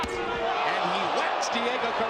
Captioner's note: crowd exclaims